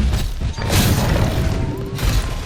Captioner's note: slap